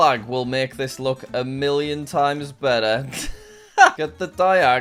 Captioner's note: laughs